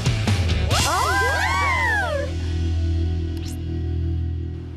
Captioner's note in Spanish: gritos